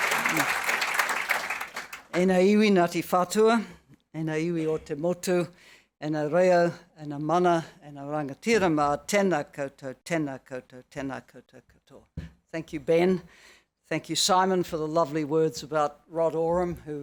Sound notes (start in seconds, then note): 2.4 speaking foreign language